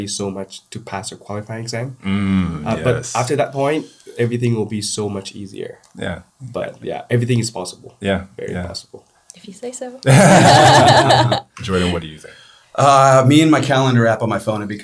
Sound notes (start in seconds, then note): 10.0 all laughing